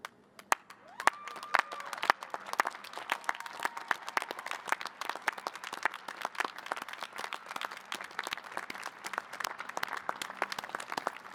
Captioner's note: cheers and applause